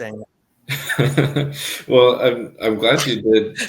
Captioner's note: chuckles